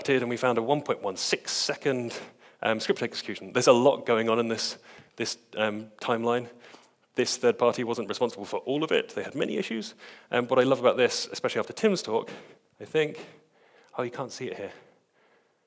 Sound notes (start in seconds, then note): none